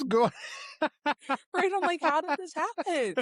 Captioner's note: laughing